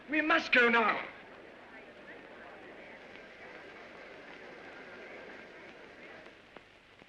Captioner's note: faint chatter